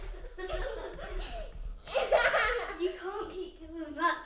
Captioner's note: children laughing; whispering